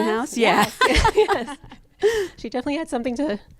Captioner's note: laughs